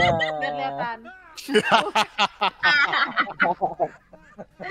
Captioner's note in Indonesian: Ketawa